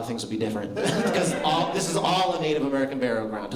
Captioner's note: laughter